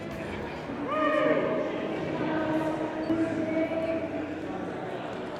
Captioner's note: people chattering